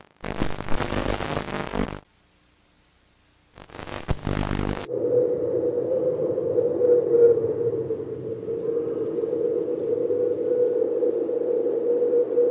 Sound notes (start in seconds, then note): 0.0 audio interference; 3.5 audio interference; 4.8 howling of wind